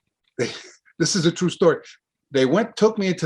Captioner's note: laughs